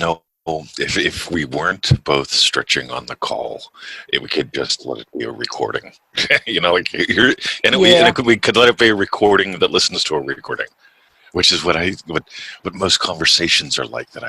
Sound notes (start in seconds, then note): 6.2 laughs